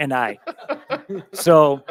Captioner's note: members laughing